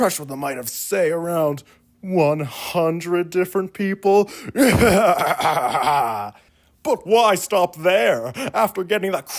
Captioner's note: more maniacal laughter